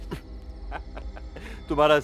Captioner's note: Laughing